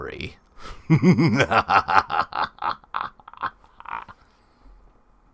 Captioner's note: evil Laugh